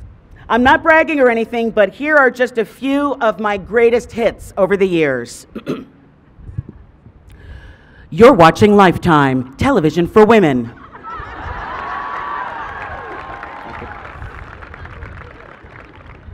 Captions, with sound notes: I’m not bragging or anything, but here are just a few of my greatest hits over the years. (Clears Throat) “You’re watching Lifetime, Television for Women.” (Cheers from the crowd)